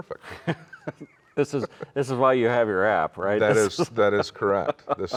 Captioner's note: laughs